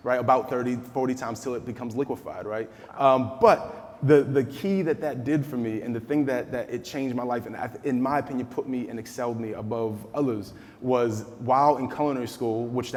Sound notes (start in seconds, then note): none